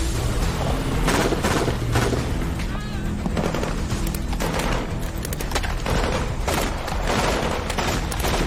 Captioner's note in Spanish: Disparos